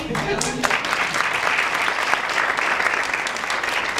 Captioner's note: applause